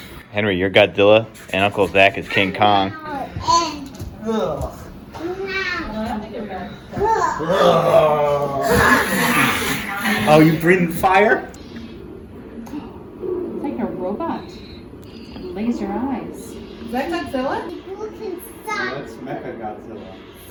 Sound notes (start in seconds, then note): 4.2 fight noises and grunts; 8.9 Godzilla fire breathing noises